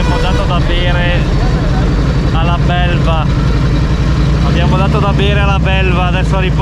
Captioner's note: motorcycle